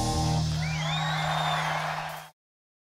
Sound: crowd cheering

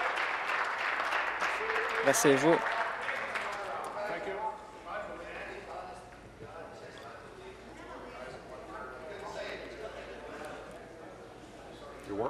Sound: applause

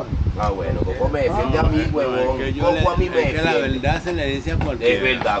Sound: everyone starts arguing

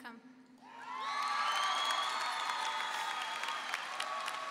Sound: audience cheering

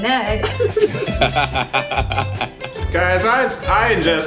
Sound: laughing

